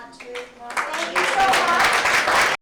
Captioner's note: applause